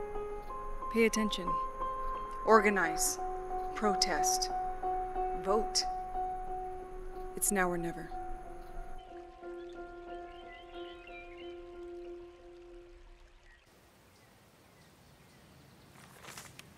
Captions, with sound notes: - Pay attention, organize, protest, vote. It's now or never. (birds chirping) (somber piano music)